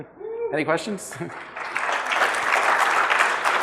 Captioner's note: audience applause